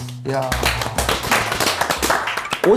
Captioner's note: welcoming applause